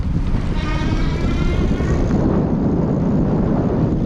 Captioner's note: wind rushing